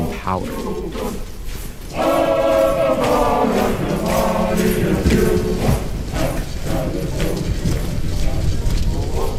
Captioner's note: soundbite of archived recording